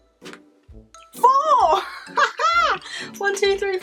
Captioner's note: laughs